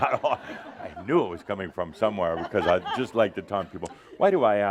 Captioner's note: laughter